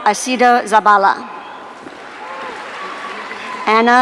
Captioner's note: audience applauding